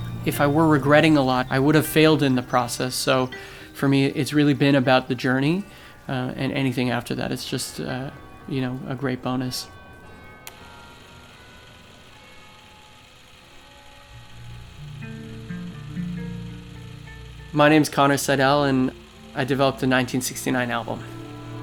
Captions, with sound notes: if i were regretting a lot i would have failed in the process so for me it's really been about the journey and anything after that it's just you know a great bonus (Bells of Notre Dame church) my name is Connor Seidel and i developed the 1969 album